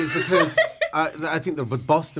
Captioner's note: laughter